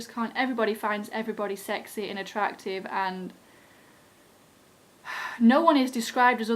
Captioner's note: sigh